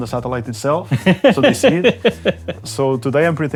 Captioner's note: laughs